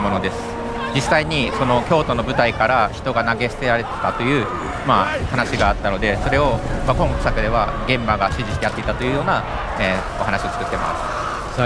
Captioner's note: speaking global language